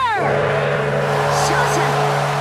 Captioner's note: gong